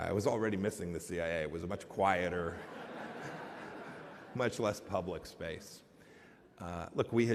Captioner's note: laughter